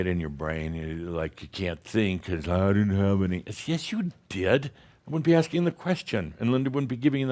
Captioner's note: dull voice